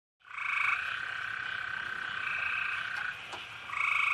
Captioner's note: insects chirping